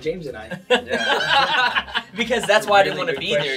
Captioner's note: all laugh